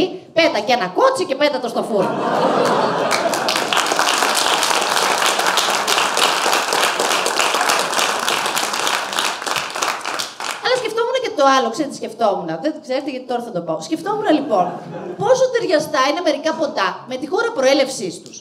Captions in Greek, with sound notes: ΠΕΤΑ ΚΑΙ ΕΝΑ ΚΟΤΣΙ ΚΑΙ ΠΕΤΑ ΤΟ ΣΤΟ ΦΟΥΡΝΟ (ΓΕΛΙΑ ΚΑΙ ΧΕΙΡΟΚΡΟΤΗΜΑ) ΑΛΛΑ ΣΚΕΦΥΟΜΟΥΝ ΚΑΙ ΤΟ ΑΛΛΟ ΞΕΡΕΤΕ ΤΙ ΣΚΕΦΤΟΜΟΥΝ; ΔΕΝ ΞΕΡΕΤΕ ΓΙΑΤΙ ΤΩΡΑ ΘΑ ΤΟ ΠΩ ΣΚΕΦΤΟΜΟΥΝ ΛΟΙΠΟΝ, ΠΟΣΟ ΤΑΙΡΙΑΣΤΑ ΕΙΝΑΙ ΜΕΡΙΚΑ ΠΟΤΑ ΜΕ ΤΗΝ ΧΩΡΑ ΠΡΟΕΛΕΥΣΗΣ ΤΟΥΣ